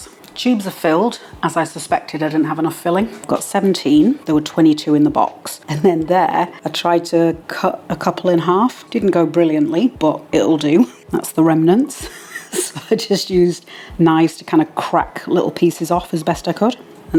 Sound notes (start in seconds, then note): 6.8 laugh